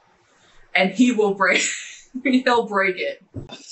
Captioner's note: laughing